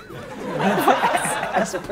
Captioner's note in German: Lachen